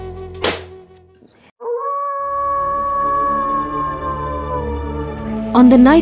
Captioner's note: soft gentle music; wolf howling